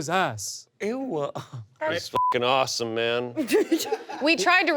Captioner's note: beep; laughter